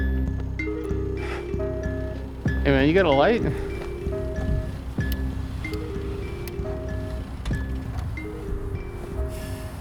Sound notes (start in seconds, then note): 7.4 engine turns off